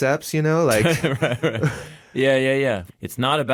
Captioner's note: laughs